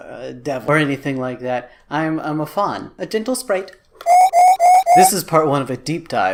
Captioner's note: digital whistle